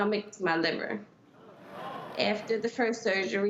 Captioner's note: audience gasps